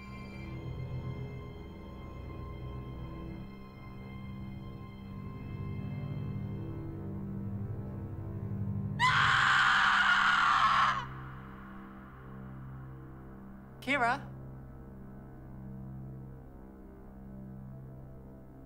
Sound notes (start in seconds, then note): 9.0 Kira screaming